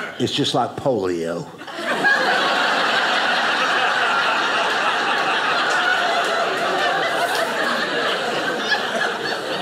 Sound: audience laughing

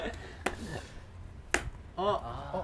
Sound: slap

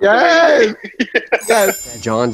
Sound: Katya laughs

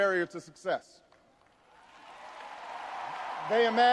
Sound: audience cheers and applauds

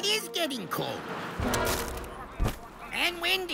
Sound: wind blowing

